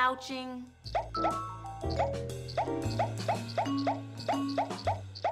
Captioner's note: popping